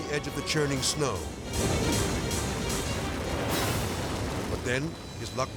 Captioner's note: chaotic dramatic music; snow pounding